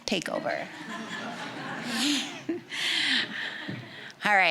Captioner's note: audience chuckling